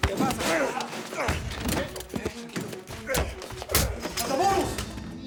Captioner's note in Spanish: Ruidos de la lucha